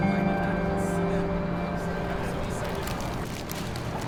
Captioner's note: people chattering